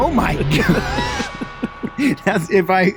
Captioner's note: laughing